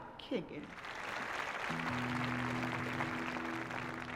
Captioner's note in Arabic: تصفيق